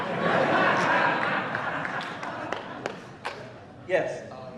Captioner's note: laughter